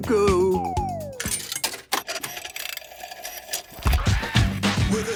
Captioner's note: clicks, whirring; hip hop music plays